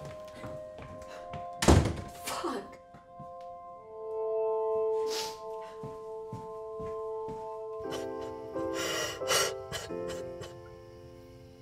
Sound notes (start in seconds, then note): 8.8 Lucy crying